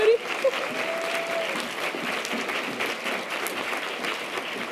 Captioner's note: audience applause